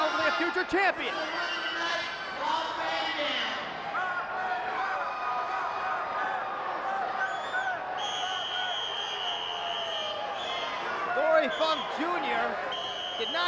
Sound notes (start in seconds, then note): 8.0 whistle trills